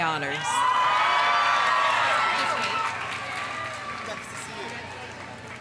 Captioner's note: audience cheering; audience applauding